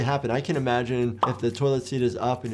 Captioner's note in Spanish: burbuja estallando